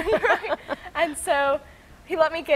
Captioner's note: both laughing